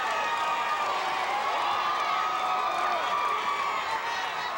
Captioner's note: audience cheering continues